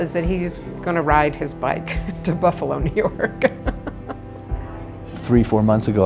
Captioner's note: laughing